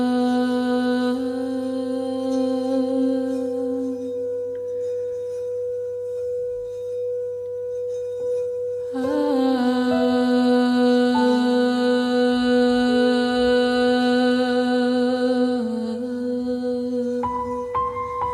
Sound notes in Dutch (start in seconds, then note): none